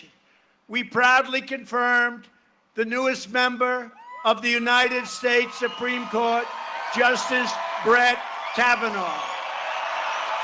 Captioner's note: cheering and applause